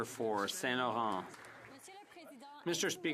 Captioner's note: some Applause